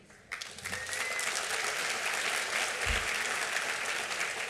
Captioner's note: applause